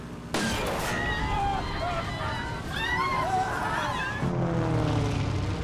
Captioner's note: passengers screaming